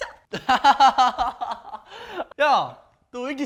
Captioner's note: laughing